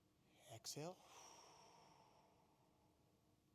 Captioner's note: exhales